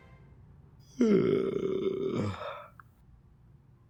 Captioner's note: yawns